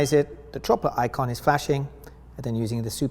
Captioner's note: meter beeps